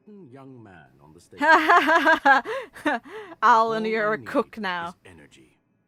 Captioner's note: laughs